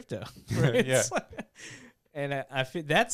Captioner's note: laughing